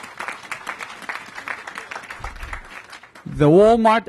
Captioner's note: applause